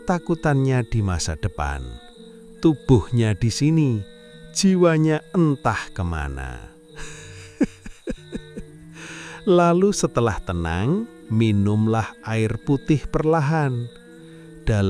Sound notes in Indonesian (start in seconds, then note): 7.0 tertawa